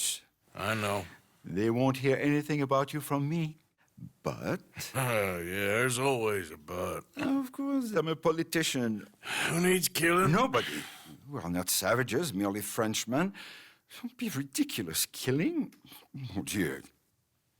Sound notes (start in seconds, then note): 5.3 chuckles